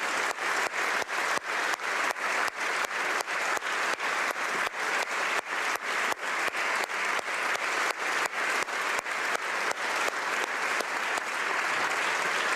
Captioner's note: applause